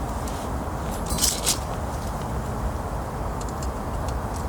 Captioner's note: sounds of Fire